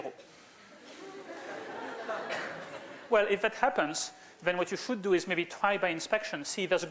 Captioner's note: laughter